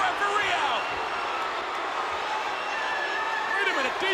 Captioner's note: crowd boos